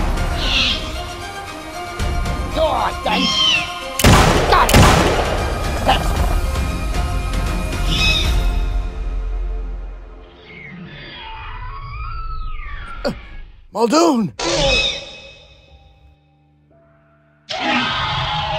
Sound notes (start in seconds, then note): 4.0 shots fired; 7.8 velociraptor screeching; 14.5 velociraptor screeching